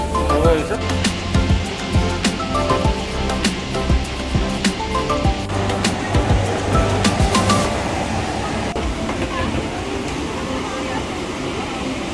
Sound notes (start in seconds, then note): 2.0 airplane air blowing